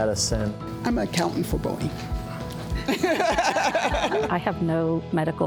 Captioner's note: laughs